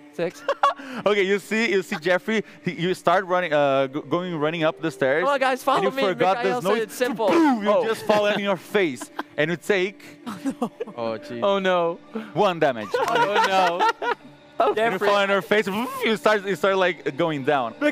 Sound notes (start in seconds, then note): 7.6 pow